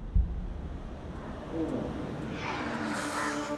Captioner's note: exhales